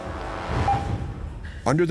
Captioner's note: monitor beeping